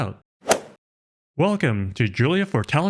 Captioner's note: golf swing sound effect